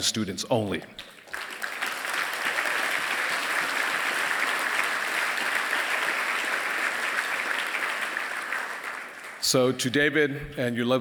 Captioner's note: applause